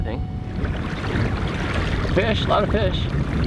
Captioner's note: water sloshing